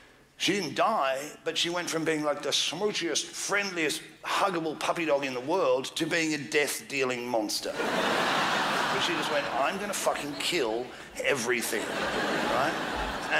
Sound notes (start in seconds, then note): 7.7 crowd laughs